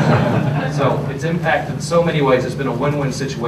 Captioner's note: laughter